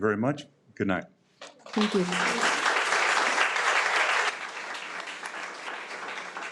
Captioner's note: audience applauding